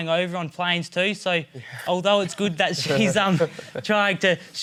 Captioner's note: laughs